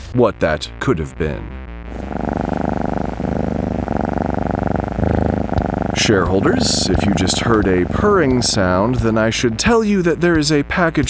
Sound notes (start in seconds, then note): 6.1 a purring sound